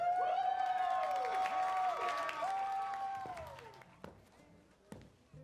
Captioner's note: cheering, applause